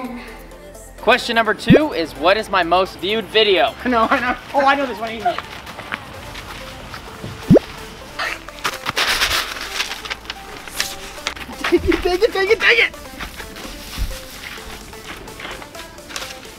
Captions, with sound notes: - Question, number two is what is my most viewed video? - Oh, I know where this one is. (paper rattling) (laughs) - Take it. (upbeat music)